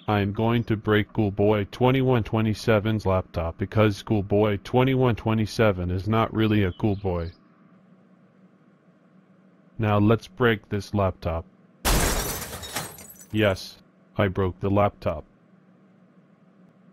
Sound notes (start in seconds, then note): 11.8 crash crash crash